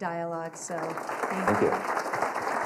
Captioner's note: applause